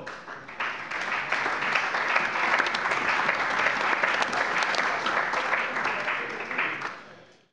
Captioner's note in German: Allgemeiner Beifall